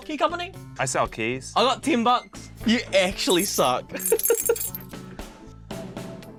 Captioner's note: laughs